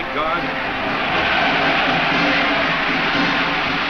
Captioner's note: crowd cheers